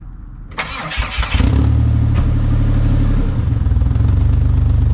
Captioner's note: engine starting